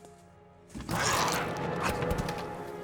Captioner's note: growling